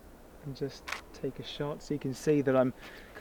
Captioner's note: camera shutter